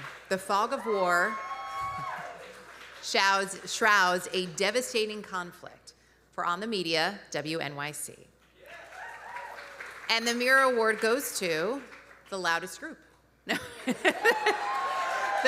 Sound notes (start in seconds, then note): 8.6 audience cheering; 8.6 audience applauding; 13.4 laughing; 14.0 audience cheering